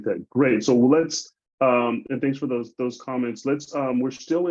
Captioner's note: none